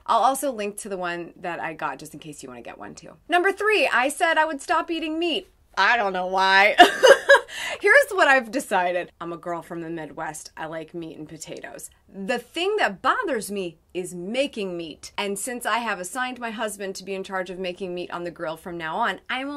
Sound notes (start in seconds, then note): 6.8 laughs